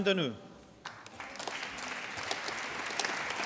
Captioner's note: applause